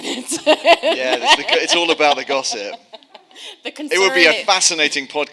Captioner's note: laughing